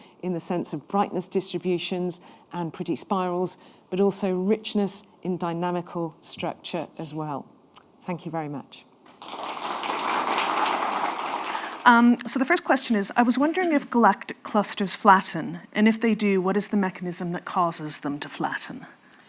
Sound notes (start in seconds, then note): 9.1 audience applauding